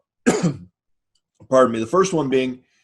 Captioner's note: coughs